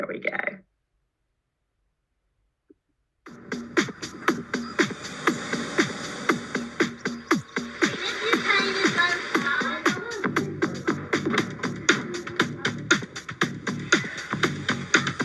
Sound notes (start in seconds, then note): 3.5 quirky upbeat music; 7.8 children murmuring